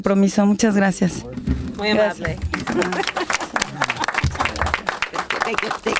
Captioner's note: clapping